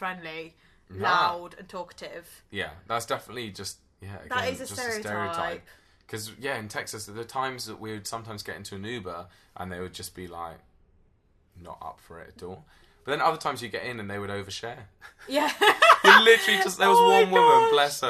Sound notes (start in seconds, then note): 15.5 laughs loudly